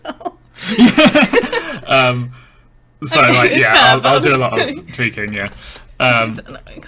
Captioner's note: laughing